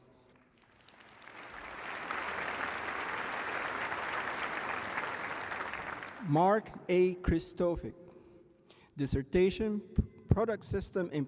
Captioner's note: applause